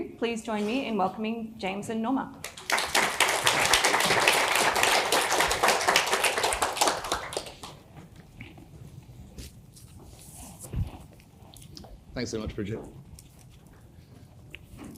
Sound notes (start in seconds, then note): 2.4 audience applauding